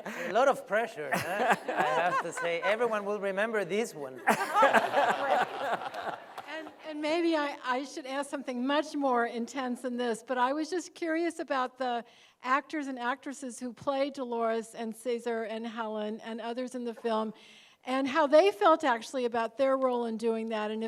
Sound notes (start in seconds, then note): 1.1 laughs; 4.2 laughter